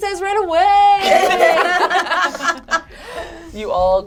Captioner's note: all laugh